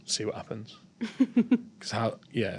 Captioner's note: giggling